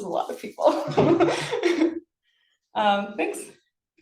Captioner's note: laughs